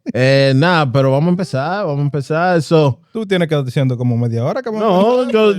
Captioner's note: speaking Spanish; laughter